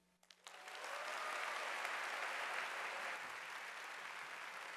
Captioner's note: audience applauding